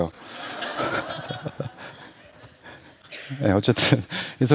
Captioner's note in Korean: 웃음